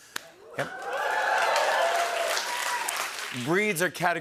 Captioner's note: cheering and applause